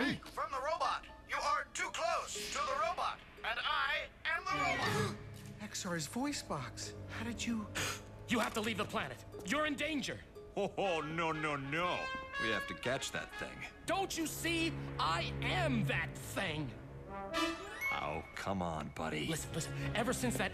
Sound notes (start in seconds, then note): none